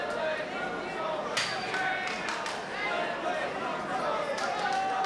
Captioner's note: spectators cheering